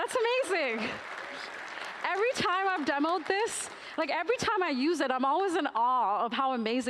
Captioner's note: applause